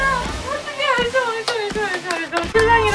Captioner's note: clap, clap